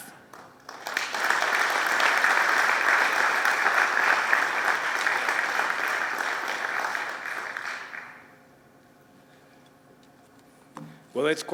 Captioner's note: applause